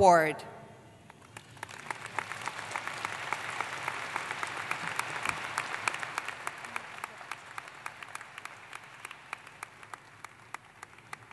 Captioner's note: applause